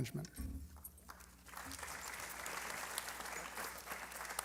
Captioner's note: applause